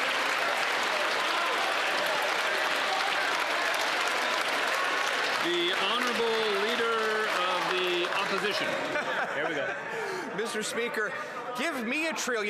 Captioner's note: cheers & Applause